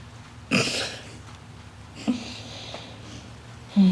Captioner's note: Crystal laughs